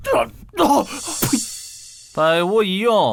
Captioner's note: spits